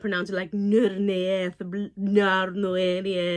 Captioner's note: speaks in thick accent